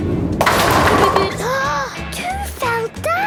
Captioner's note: giggling, Peppa gasping